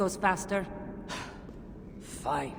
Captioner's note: sigh